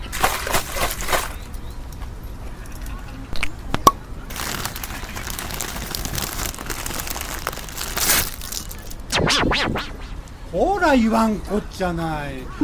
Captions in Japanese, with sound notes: [ペットボトルのお茶を開けようとする音] [菓子袋を開けようとする音] [菓子袋が破けて、こぼれる音] トモ：ほら言わんこっちゃない。